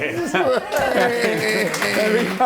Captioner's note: applause; laughs